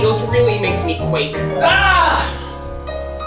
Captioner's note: STEVE screams